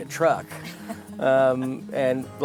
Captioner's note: laughing